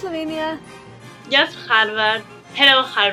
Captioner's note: speaking in foreign language